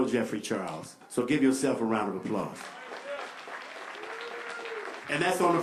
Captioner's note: applause